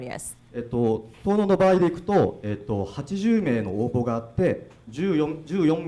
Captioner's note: speaking foreign language